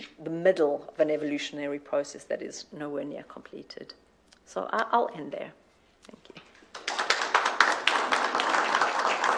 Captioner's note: applause